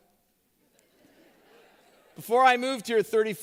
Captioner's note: laughter